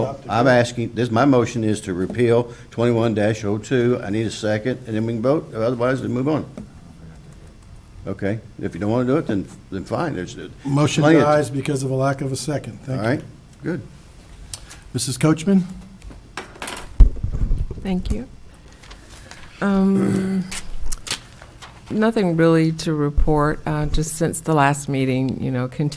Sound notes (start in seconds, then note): 7.3 speaking distantly